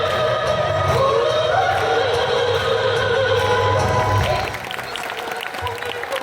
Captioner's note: crowd clapping and speaking Korean